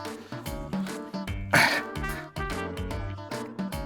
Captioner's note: grunts